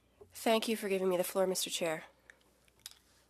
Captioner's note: speaking French